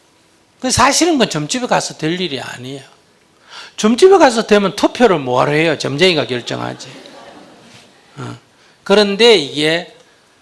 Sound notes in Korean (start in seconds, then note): 6.1 청중 웃음